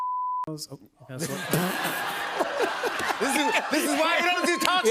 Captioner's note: laughter